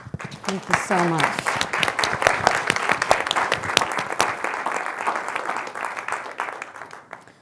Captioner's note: applause